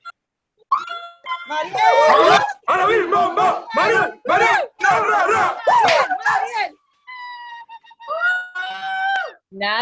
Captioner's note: cheering